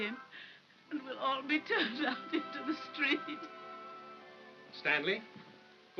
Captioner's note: sobbing